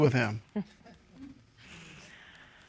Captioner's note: chuckles